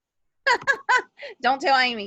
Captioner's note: laughing